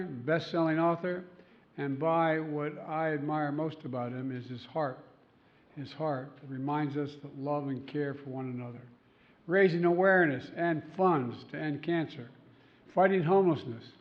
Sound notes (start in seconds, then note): none